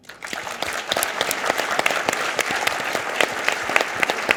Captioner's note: audience applause